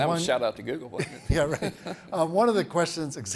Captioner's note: both chuckles